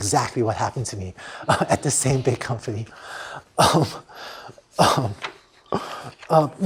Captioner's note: laughter